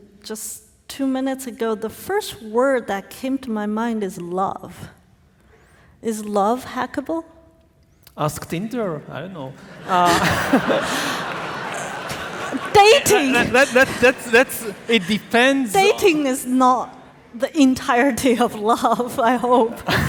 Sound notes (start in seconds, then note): 9.6 audience laughing